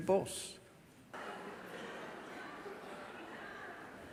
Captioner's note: laughter from the audience